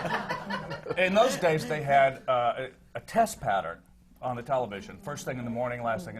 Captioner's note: laughter